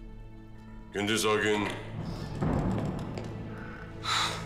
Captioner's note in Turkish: Kapı açılma sesi